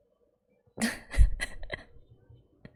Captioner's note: laughs